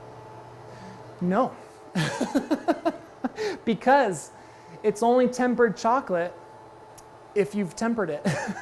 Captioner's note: laughs